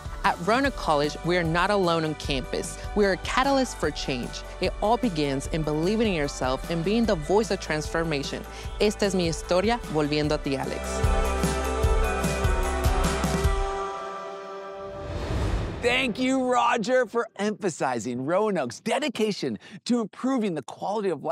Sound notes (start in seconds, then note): 8.6 speaking in Spanish; 10.9 upbeat music